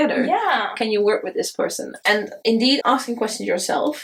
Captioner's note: none